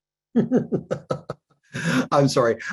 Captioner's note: chuckling; mischievous music